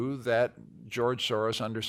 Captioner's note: none